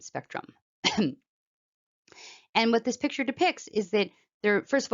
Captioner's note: cough